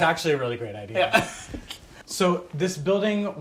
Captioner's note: laughs